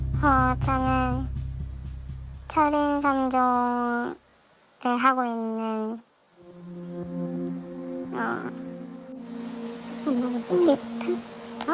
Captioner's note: voiceover